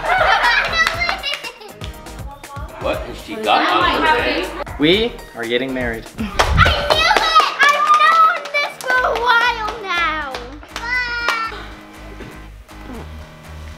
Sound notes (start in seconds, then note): 0.0 chuckles; 6.3 clapping